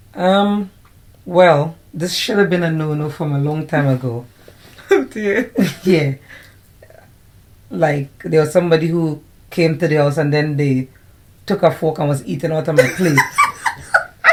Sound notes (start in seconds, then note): 5.4 laughter